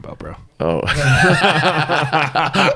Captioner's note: laughs; both laugh